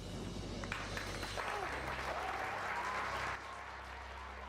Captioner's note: applause